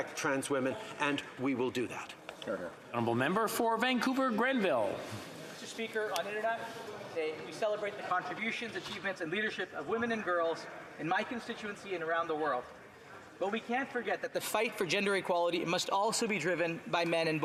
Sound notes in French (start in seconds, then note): 8.0 voix de l'interprète